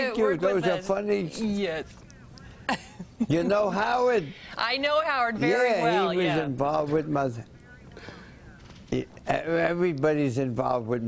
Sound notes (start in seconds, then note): 2.7 laughter